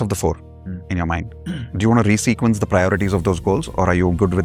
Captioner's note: clears throat